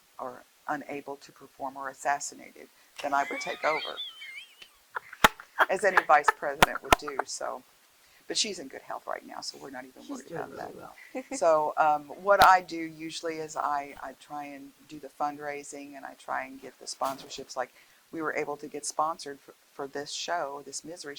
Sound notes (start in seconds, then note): 3.0 laughing